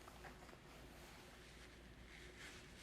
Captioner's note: wiping nose